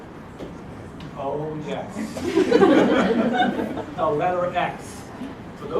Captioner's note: laugh